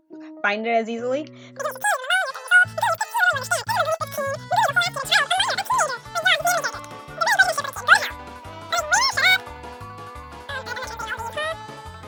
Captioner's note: voice sped up as Super Mario 64 music plays